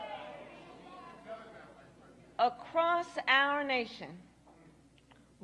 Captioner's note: boos